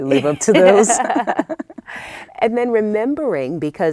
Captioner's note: laughter